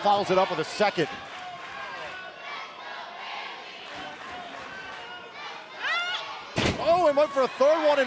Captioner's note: crowd cheering